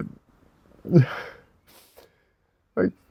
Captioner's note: laughing